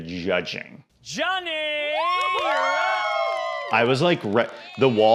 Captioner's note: all cheering